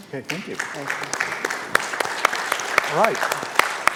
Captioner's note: applause